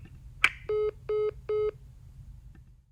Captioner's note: phone beeping